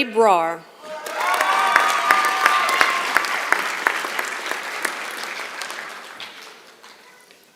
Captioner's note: applause